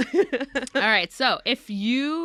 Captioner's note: laughs